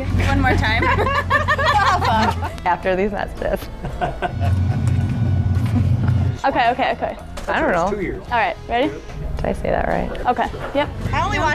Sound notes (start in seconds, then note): 0.2 laughs; 3.7 laughs; 5.6 chuckles